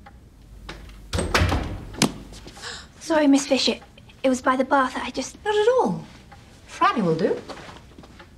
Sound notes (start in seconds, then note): 0.7 door closes